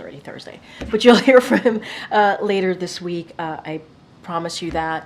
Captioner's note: laughter